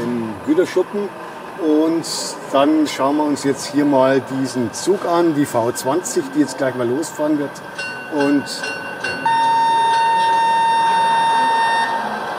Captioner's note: bell and whistle